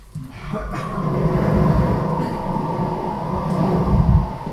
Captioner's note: wind howling